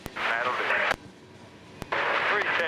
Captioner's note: radio static